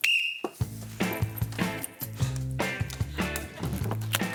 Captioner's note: blows whistle